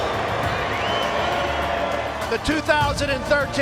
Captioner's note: crowd cheering